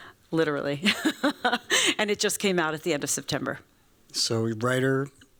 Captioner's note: laughs